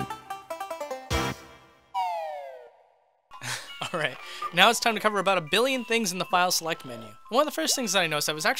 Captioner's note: laughs